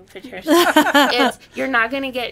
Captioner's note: laughing